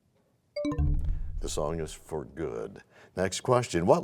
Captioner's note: bell chimes, time expires